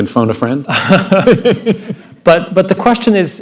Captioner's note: laughter